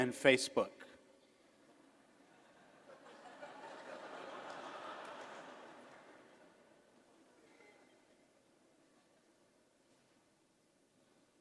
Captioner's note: laughter